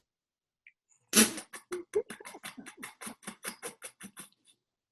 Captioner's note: laughing